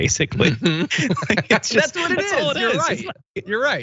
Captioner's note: laugh